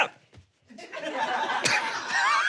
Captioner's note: audience laughs; everyone laughs